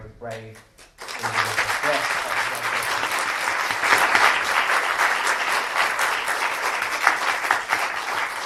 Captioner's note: applause